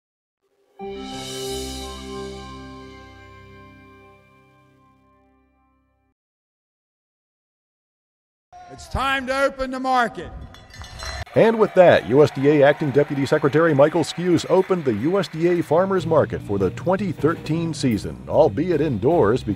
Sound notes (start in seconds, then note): 10.6 bell ringing